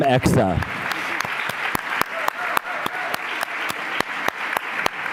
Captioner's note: applause